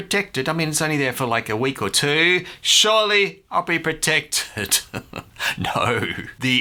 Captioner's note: chuckles